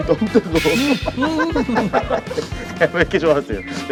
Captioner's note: rushing